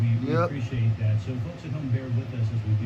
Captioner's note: on TV